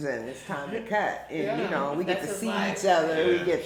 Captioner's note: speaking faintly